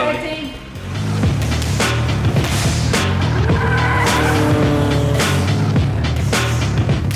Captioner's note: hushes